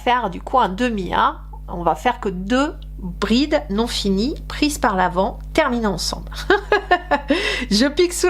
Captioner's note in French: rires